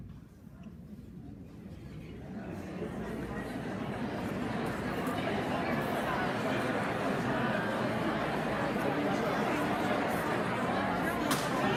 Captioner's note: audience talking